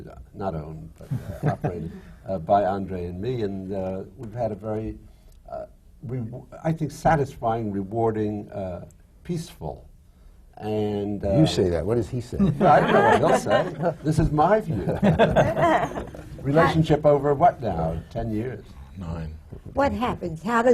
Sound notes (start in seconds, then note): 12.4 laughter